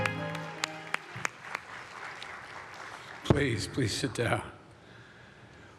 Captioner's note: applause